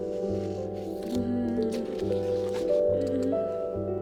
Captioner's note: groans